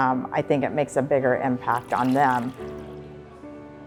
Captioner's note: coffee pouring